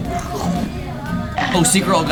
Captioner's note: chomping